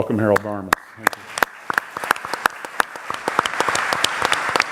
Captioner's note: audience applauds